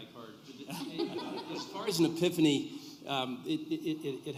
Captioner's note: laughter